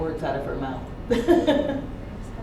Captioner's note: laughs